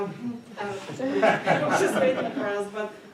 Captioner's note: attendee laughing